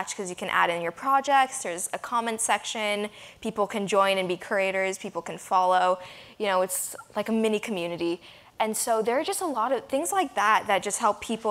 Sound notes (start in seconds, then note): none